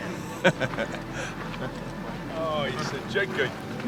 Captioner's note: laughs